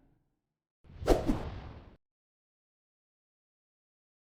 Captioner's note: slide fwipping